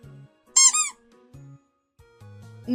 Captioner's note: squeaky sfx